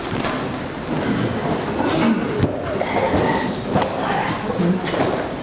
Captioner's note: people chattering